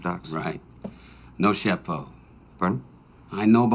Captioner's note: speaking in foreign language